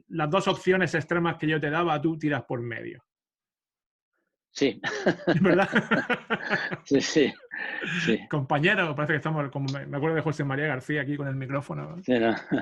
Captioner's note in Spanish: Risas